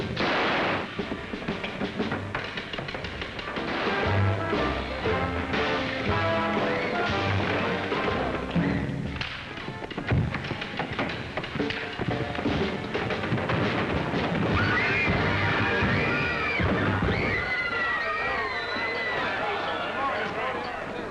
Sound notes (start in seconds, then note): 0.0 gunshot; 3.5 gunshot; 4.7 swanky music; 10.1 thump; 12.8 crash; 14.5 screaming; 17.7 screaming & commotion